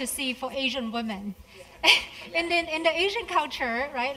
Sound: laugh

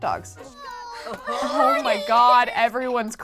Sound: kids crying

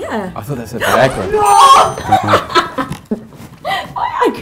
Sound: Ruby laughs

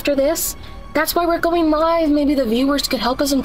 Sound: quietly

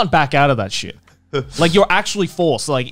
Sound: laughing

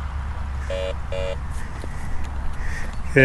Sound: buzzing

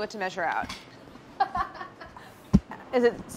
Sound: laughing

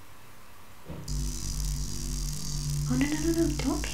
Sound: buzzing

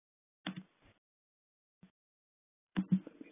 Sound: mouse clicking

